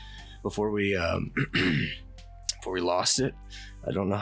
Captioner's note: clears throat